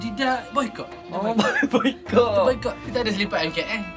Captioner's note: laugh